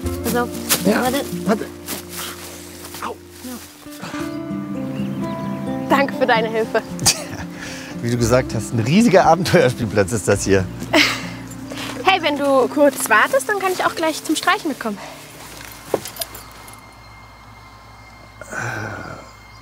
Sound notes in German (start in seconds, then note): 6.9 lacht; 15.4 Flirrende Musik